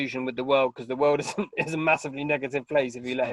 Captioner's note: laughing